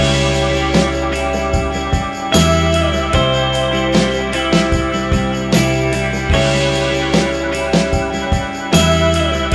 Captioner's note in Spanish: campana